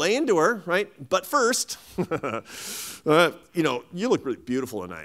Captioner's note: laughs